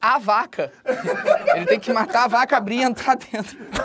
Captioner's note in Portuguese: risadas